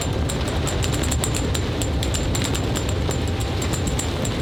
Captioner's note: rushing wind